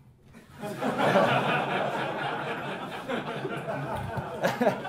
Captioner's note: class laughing